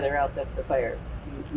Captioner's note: static sound